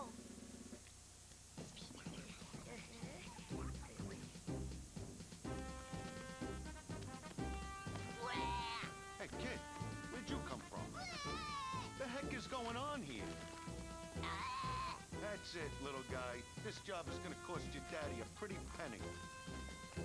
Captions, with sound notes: ( whispering ) ( yells ) HEY, WHERE DID YOU COME FROM? ( yells ) WHAT THE HECK IS GOING ON HERE? ( yells ) THAT'S IT, LITTLE GUY. THIS JOB IS GOING TO COST YOUR DADDY A PRETTY PENNY.